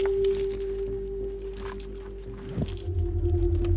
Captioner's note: rocks scrape